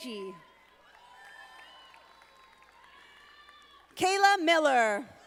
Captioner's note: audience applauding